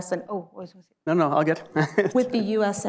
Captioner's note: laughs